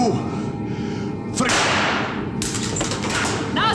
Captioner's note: gun fires